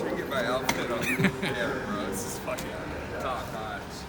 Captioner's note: laughing